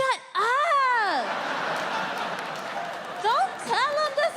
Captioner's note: audience laughing